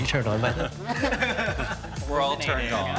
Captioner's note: group chuckling; person laughing